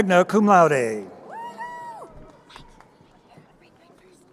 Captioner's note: crowd cheering